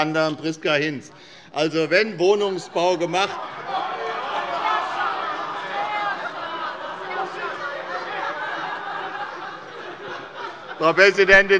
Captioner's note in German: Lebhafte allgemeine Heiterkeit